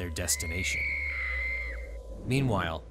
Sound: screaming

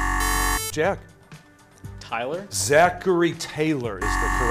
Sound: buzzer

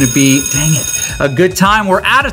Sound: school bell

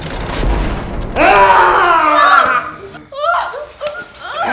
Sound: screams

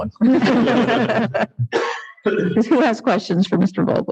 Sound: laughs

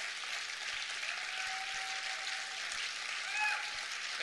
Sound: continuing applause

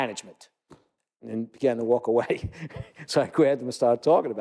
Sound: laugh

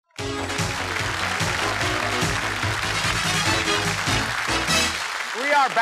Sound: cheers and applause

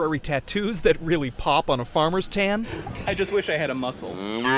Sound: cow moos / sheep bleats / rooster crows

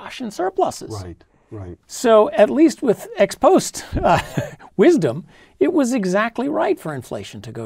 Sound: laugh

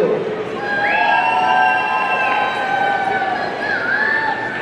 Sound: audience cheering

